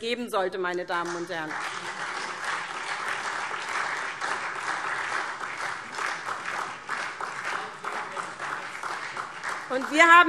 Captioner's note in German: Beifall SPD und DIE LINKE